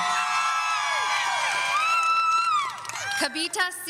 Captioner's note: audience cheering